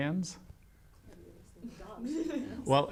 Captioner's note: laughs